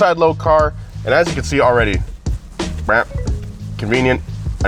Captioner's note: squeaks